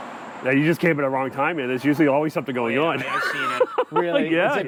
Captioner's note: laughs